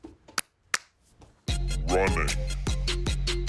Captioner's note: slaps